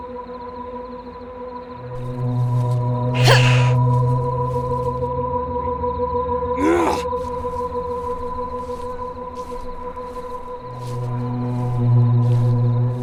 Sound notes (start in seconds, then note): 3.1 Vivian grunts and hisses; 6.6 Jackson grunts